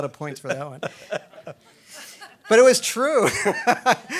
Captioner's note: everybody laughing